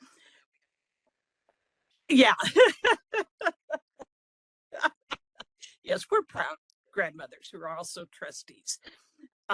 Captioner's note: laughing